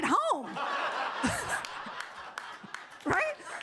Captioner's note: audience laughing